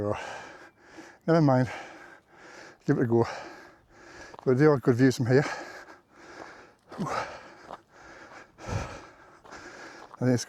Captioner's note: sighs; gasps